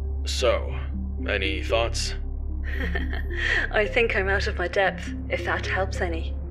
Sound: laughs

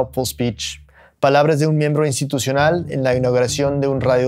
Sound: speaking Spanish

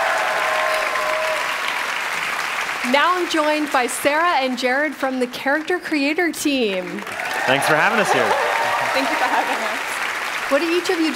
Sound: cheers and applause

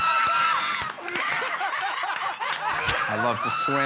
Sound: laughter, cheers and applause; laughter

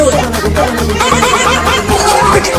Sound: puppy barking

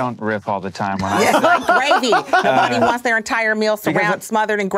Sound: all laughing

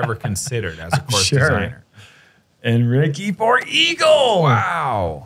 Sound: laughs

